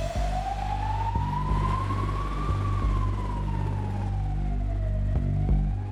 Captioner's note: deep, tense music; sirens blaring